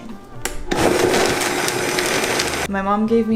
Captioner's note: blending